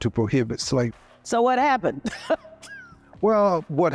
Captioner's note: laughs